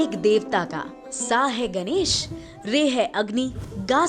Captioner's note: fire